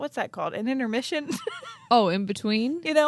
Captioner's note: laughs